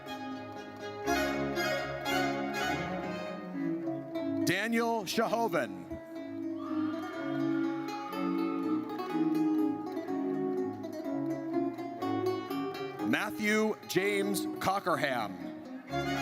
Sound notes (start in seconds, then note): 0.2 triumphant music; 6.5 audience cheers; 15.9 triumphant music